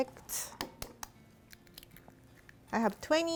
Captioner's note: eggs cracking